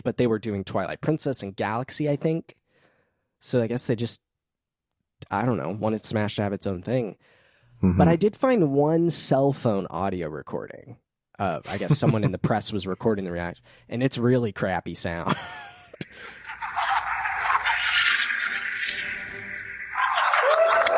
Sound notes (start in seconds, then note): 15.2 laughter; 17.7 audience cheering; 20.7 speaking in foreign language